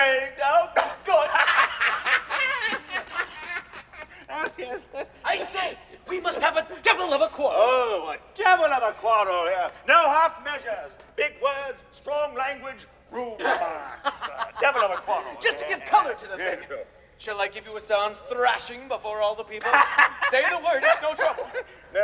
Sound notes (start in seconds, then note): 1.0 both laugh; 19.6 Rudolph laughs